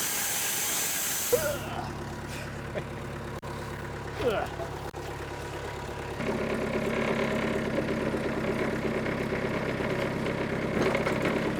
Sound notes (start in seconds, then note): 4.2 laughing; 6.0 engine rumbling